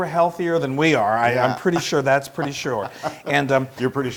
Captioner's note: laugh